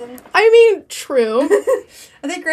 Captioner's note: laughs